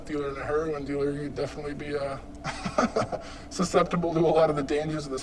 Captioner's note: chuckles